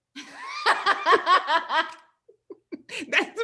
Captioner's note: both laugh